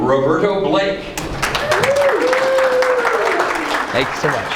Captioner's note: applauding